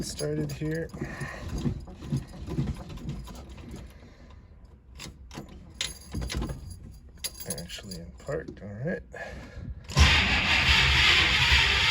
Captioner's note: engine Cranking, then starting